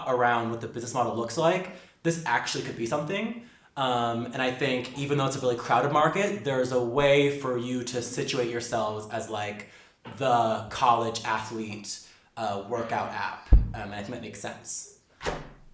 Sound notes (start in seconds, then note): none